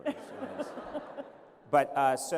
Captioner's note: laughter